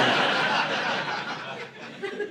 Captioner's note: audience laughing